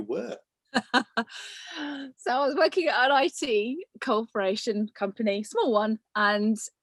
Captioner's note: laughs